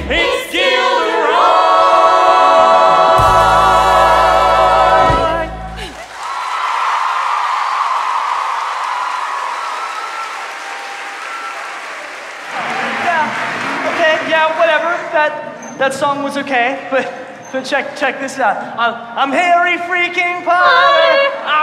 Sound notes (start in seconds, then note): 5.5 audience cheers; 5.8 applause; 14.0 audience cheers; 14.7 applause